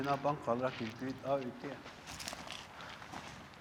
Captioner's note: speaking Hopi